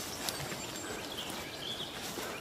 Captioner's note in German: Vogelzwitschern